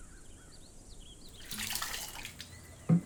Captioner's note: water splashing